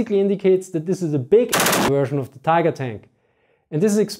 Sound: MG42 sound

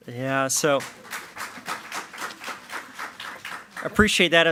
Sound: attendees clapping

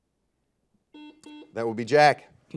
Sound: buzzer buzzes

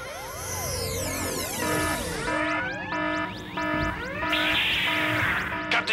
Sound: alarm!

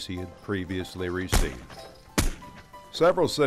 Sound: gunshots

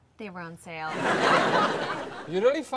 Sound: audience laughs

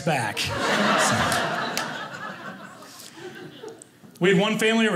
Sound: audience laughing

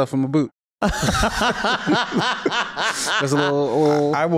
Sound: laughs

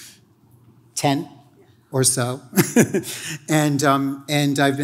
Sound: laughs

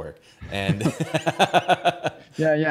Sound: laughs

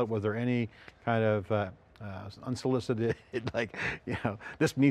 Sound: laughs

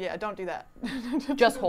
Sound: laughs

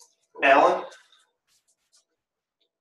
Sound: male Voice

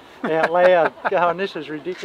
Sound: laughing

